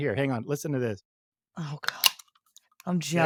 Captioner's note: can-opening sound